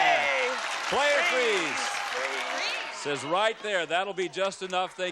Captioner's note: applause